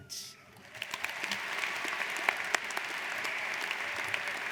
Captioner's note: audience applauding